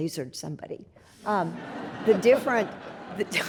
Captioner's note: audience laughs